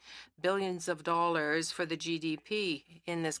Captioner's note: speaking French